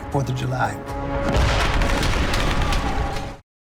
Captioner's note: man shouting